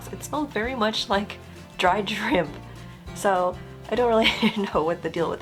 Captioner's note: laugh